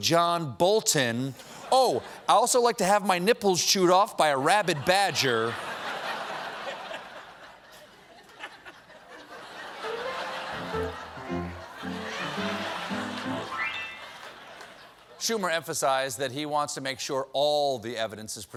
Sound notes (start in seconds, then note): 7.7 laughter; 7.7 piano riff